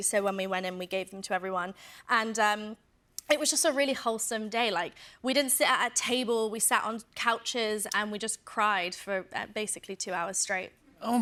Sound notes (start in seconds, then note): none